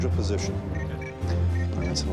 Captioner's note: monitor beeps